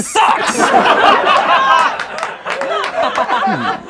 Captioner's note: laughing